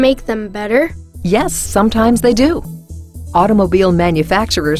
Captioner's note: voiceover